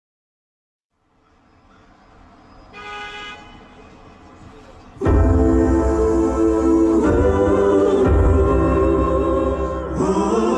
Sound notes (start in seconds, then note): 2.7 car horn honking; 4.9 choral singers vocalizing; 5.0 rhythmic piano music